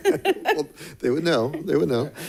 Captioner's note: laughs